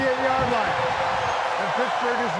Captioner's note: cheering